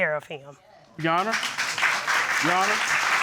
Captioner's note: audience applauding